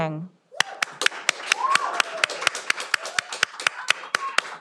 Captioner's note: all applauding